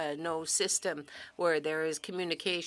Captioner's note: speaking French